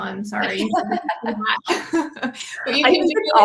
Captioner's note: laughter